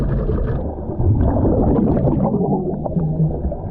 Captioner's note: water bubbling